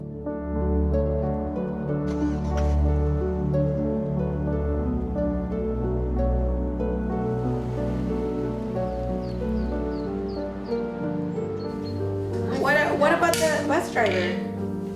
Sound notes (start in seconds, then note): 0.1 car engine starts; 0.1 warm music; 9.2 birds chirping